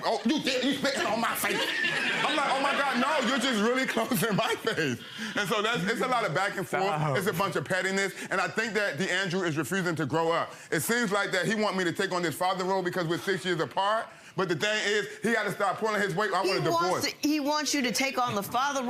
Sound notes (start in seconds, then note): 0.5 audience laughing